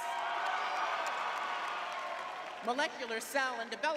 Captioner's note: crowd cheering